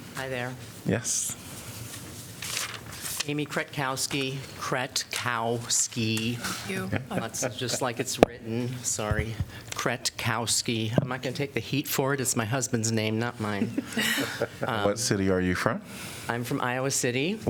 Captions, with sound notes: Hey there. Yes. Amy Kretkowski. Kret-kowski. Thank you. [LAUGHTER] Just like it's written. Sorry, Kretkowski. I'm not going to take the heat for it, it's my husband's name, not mine. [LAUGHTER] What city are you from? I'm from Iowa City.